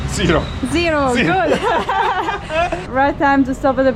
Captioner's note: laughing